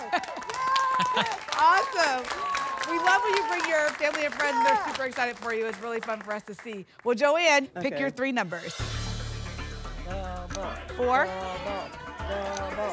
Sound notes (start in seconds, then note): 0.0 applause; 9.9 chanting "double"